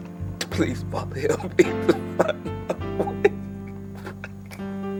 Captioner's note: crying